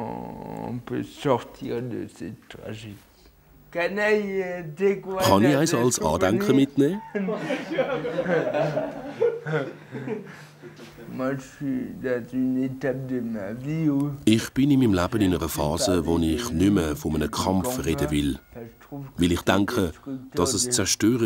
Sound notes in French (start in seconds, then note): 6.9 rires